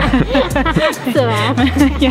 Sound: laughing

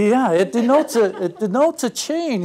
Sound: laugh

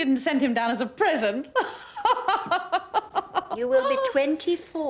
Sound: laughs

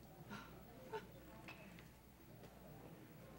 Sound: Gerta laughs

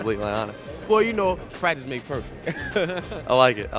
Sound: laughs

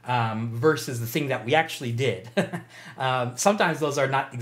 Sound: chuckles

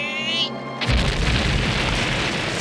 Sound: explosion

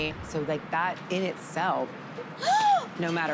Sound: gasp

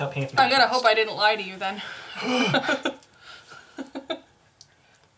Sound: laughs

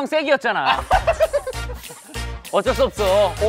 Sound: giggling

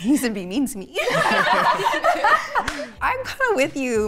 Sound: all laugh

